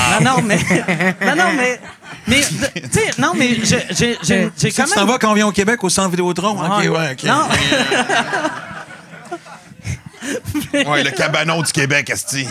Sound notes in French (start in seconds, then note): 7.3 rires